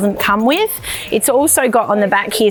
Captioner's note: zipper zipping